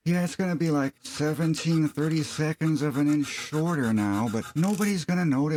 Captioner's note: sawing sound